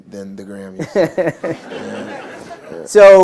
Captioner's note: laughter